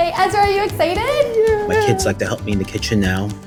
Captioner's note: groans